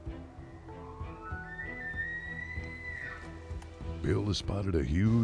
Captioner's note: faint, shrieking elk bugling